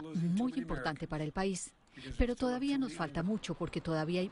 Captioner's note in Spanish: habla en ingés